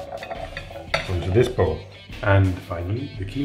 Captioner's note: chickpeas tap bottom of bowl